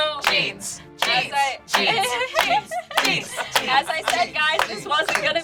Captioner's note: claps